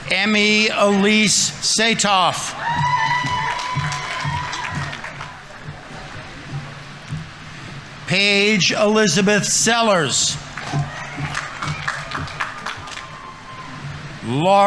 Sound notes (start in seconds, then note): 2.2 audience applauding; 2.8 audience members cheering; 10.2 audience applauding